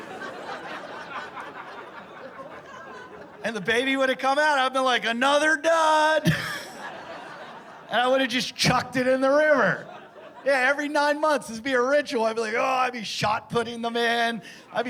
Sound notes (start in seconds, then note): 0.0 laughter; 6.0 laughter